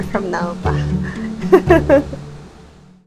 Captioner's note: laughs